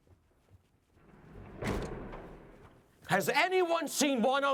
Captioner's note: door slams shut